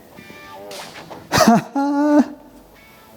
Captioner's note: laughing